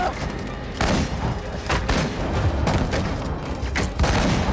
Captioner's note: gunshots continue